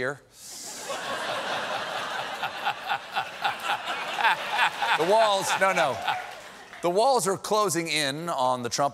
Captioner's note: laughter